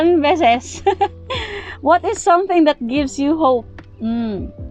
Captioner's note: laugh